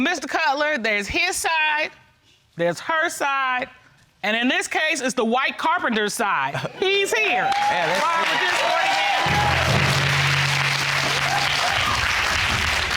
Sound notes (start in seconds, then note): 9.9 audience exclaiming, applauding